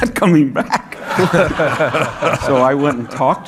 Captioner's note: audience laughing